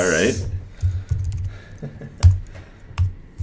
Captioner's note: chuckles